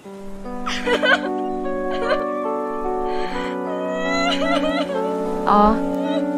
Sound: crying

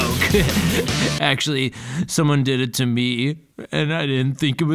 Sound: chuckles

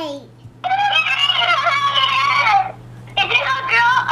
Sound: screams

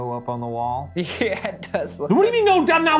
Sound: laughs

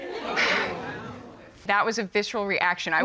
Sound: audience gasps

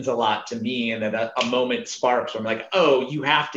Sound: snaps

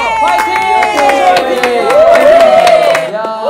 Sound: wrapping up with a warm round of applause from everyone

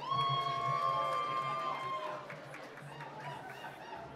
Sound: cheering and applause

